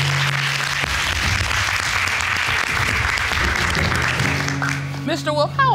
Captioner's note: crowd clapping